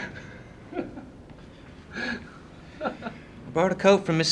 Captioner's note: laughing